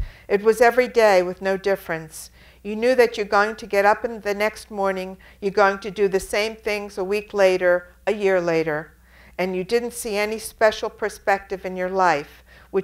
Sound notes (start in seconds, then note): none